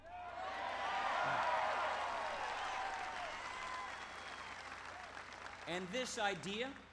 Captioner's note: applause